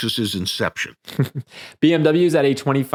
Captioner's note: chuckling